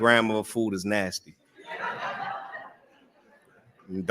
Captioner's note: laughter